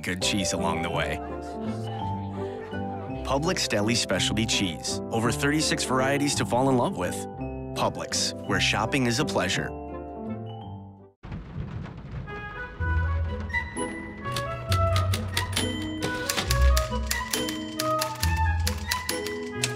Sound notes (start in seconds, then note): 11.2 pitter-patter of rain and distant thunder; 14.2 typing begins and follows melody of the music